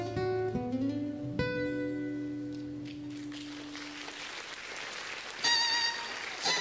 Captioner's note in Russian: Аплодисменты